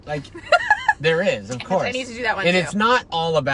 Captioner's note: laughs